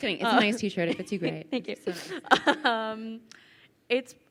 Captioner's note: chuckles